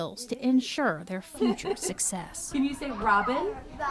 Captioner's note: laughing